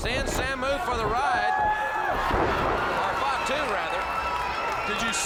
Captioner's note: crowd cheering